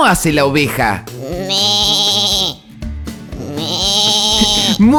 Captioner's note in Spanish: Sonido de oveja; Risas